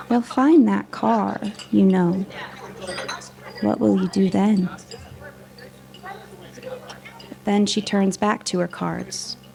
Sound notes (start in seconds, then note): 2.2 background chattering; 2.2 silverware clanking; 4.9 background chattering; 4.9 silverware clanking